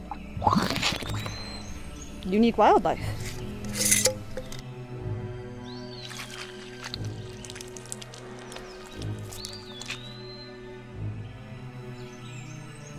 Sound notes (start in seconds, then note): 6.0 goo squishing